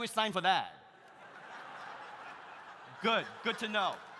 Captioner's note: audience laughs